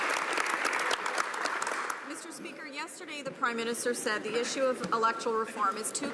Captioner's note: some Applause